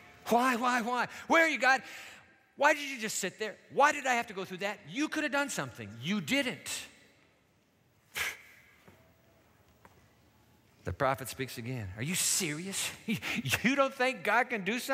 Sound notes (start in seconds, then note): 7.8 scoffs